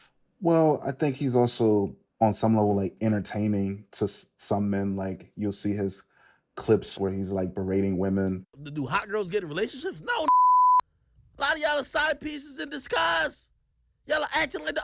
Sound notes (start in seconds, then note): 8.3 soundbite of archived recording